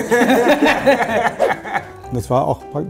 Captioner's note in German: Lachen